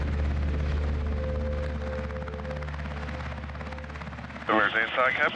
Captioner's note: helicopter whir